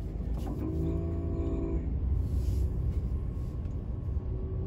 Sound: engine roaring

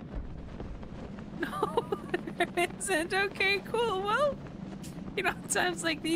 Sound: laughter

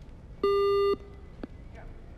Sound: beep

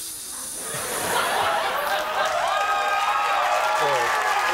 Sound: audience cheering

